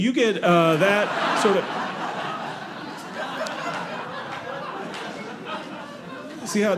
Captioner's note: audience laughing